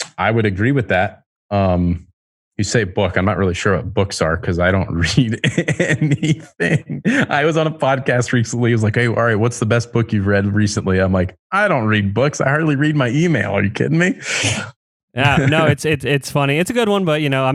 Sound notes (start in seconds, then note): 5.3 laughs; 15.2 laughs